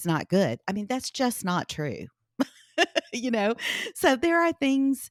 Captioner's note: laughs